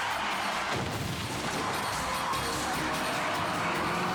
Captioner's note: tires skidding; car crashing